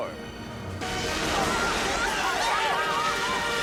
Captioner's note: gunfire and screaming